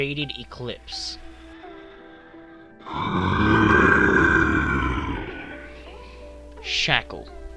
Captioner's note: hybrid growls